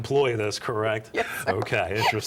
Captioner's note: laughs